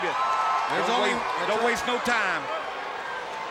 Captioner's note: crowd cheering